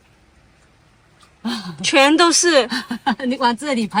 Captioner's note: laugh